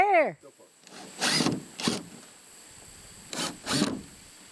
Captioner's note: driver whirs